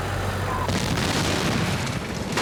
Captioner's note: explosion